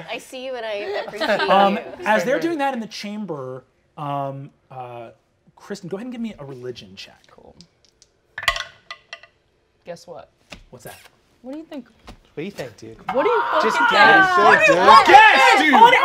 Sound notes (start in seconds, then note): 7.7 dice rolling